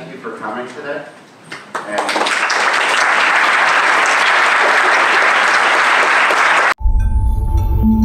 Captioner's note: applause